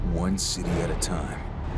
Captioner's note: none